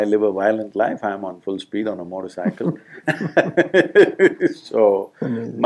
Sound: both Laugh

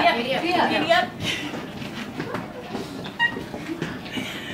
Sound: laughing

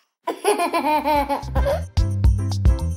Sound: laughing; upbeat music

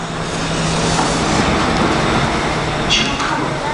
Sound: train doors open

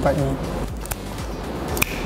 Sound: snap

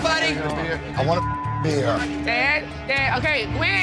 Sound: beep

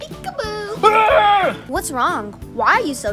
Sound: yelling

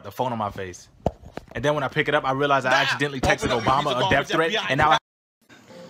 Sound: FBI knocking on door

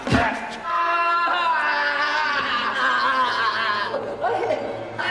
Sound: crying in pain; stammering

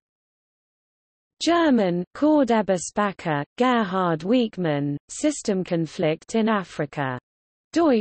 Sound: German

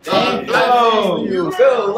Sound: family cheering

